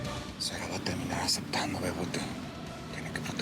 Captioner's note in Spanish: en voz baja